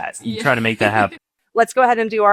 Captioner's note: chuckling